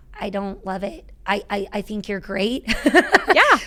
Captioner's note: laughing